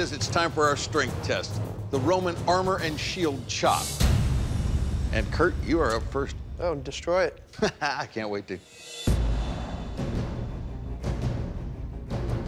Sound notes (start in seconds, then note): 7.5 laughs; 8.5 dramatic music